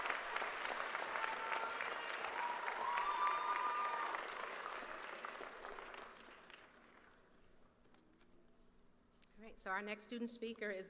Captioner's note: cheers and applause